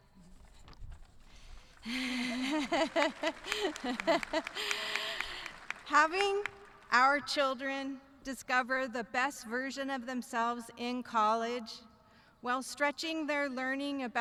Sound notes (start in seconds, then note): 1.3 audience clapping